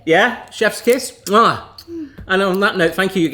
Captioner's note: kisses